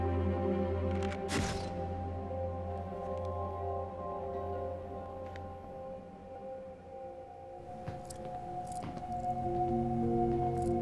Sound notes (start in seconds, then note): 0.0 suspenseful music; 1.2 camera flashing